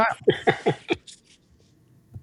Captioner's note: laughing